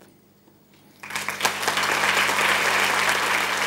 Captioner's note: applause